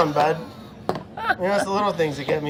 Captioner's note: laughing